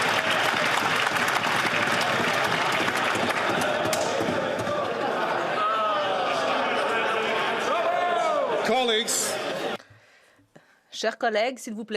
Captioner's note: some Applause